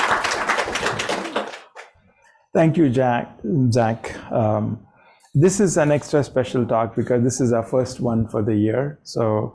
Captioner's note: applause